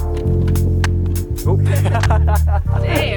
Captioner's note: laughs